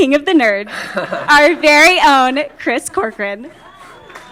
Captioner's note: laughter; applause